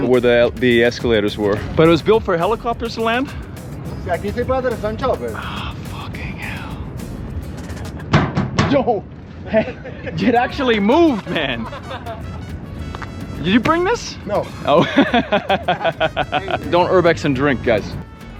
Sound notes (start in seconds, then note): 4.4 speaking Spanish; 7.6 stomping; 10.8 crew laughing; 14.4 laughing